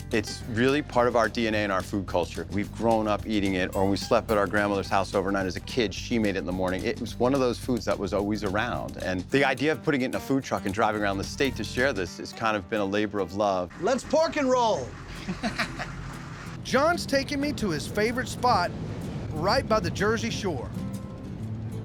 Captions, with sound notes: IT'S REALLY PART OF OUR DNA AND OUR FOOD CULTURE. WE'VE GROWN UP EATING IT, OR WE SLEPT AT OUR GRANDMOTHER'S HOUSE OVERNIGHT AS A KID, SHE MADE IT IN THE MORNING, IT WAS ONE OF THOSE FOODS THAT WAS ALWAYS AROUND. AND THE IDEA OF PUTTING IT IN A FOOD TRUCK AND DRIVING AROUND THE STATE TO SHARE THIS HAS KIND OF BEEN A LABOR OF LOVE. LET'S PORK AND ROLL. [LAUGHTER] JOHN'S TAKING ME TO HIS FAVORITE SPOT, RIGHT BY THE JERSEY SHORE.